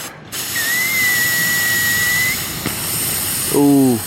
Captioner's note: sizzling; pop